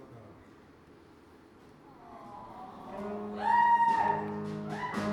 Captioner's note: audience awwwws